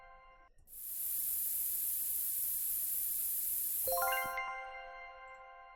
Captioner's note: spray sound